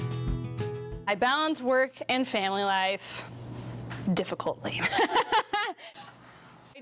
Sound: laughs

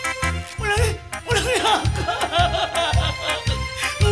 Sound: crying

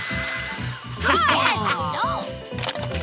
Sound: laughing

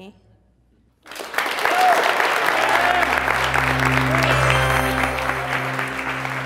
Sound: applause

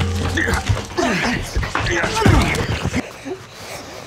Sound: men struggle

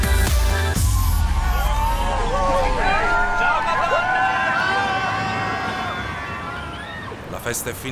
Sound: crowd cheers; speaking foreign language

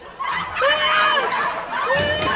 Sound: screaming

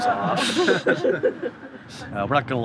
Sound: laughing

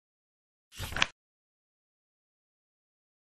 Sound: page flip sound

